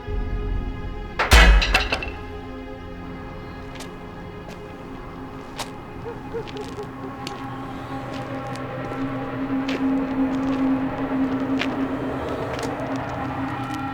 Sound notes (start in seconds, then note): 1.1 hammer clattering; 7.7 tense music